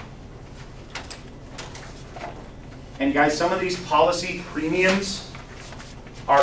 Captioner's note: paper rustles